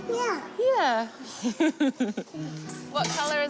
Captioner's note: chuckles